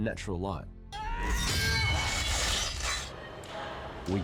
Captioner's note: yells